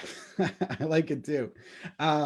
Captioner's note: laughs